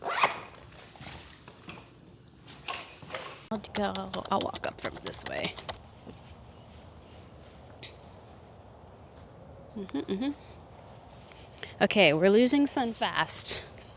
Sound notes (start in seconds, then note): 0.0 gear clacking; 0.0 zipper zipping; 3.7 keyboard clacking; 6.1 birds chirping